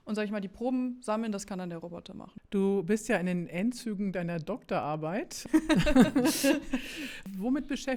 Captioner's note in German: gelächter